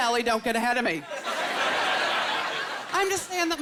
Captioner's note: laughter